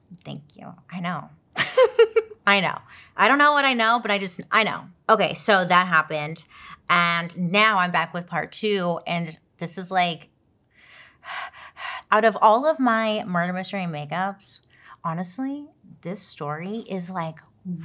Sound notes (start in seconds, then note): 1.6 laughs; 10.7 breathing rapidly